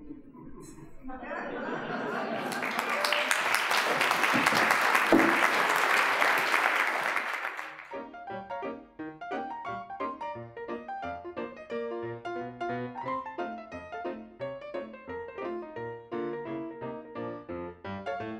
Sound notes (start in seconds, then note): 1.1 audience laughing; 2.1 applause; 7.8 ragtime piano music